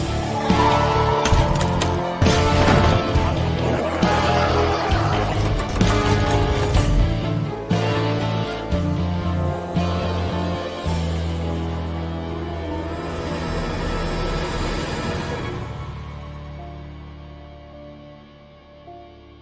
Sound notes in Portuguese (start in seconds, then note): 1.2 madeira quebrando; 3.9 monstro grunhindo; 5.0 mecanismo mexendo; 16.1 música tema